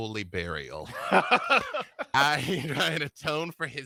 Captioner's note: laughs